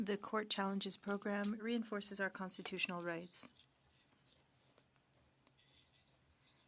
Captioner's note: speaking French